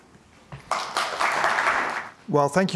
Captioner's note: applause